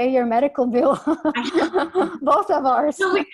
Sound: both laughs

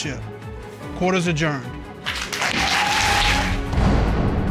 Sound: audience cheers, applauds

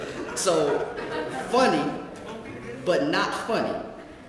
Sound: laugh

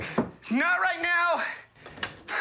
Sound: knocking

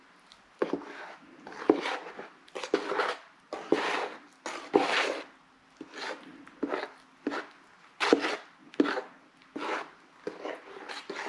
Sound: drywall mud and water mixing sound

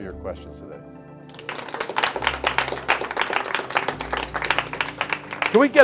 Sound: clapping

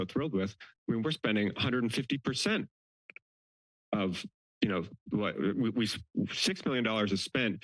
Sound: stutters

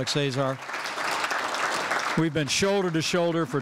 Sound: applause

